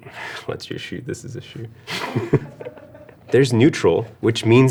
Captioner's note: laughs